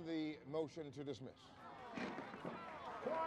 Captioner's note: applause